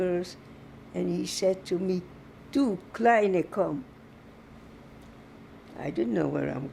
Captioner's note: german